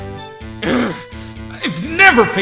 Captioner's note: growling